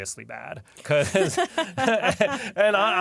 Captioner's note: laughter